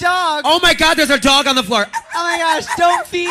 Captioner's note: makes little yapping noises